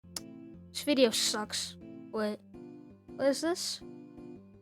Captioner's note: tsk